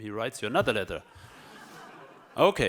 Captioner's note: audience laughs